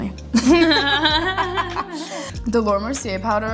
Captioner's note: both laughing